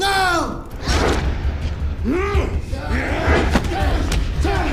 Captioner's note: whooshing; groaning; thudding